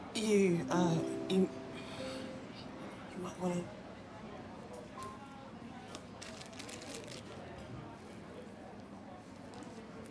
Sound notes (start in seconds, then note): 6.1 plastic rustling